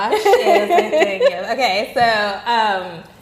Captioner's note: laughing